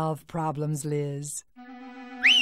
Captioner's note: whistles